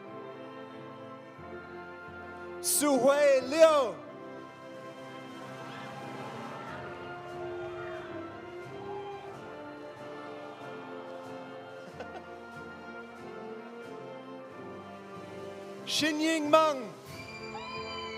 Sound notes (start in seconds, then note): 5.4 audience cheering; 5.4 audience applauding; 11.7 faculty laughing; 17.1 audience cheering; 17.2 audience applauding